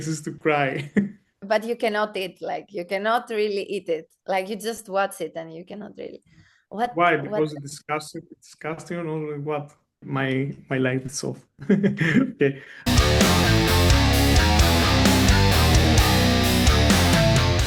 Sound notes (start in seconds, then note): 0.5 chuckles; 11.6 chuckles; 17.1 metal music